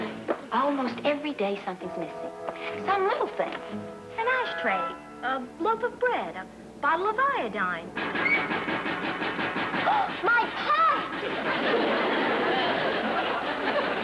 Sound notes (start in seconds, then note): 7.9 water pipes banging; 10.1 gasps